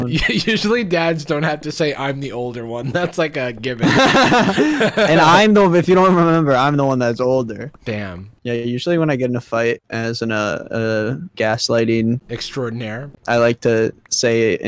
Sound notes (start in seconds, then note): 3.8 laughs loudly